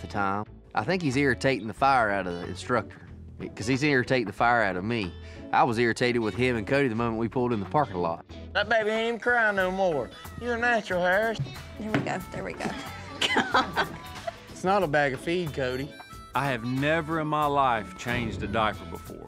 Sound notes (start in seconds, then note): 11.6 thud; 12.6 chuckling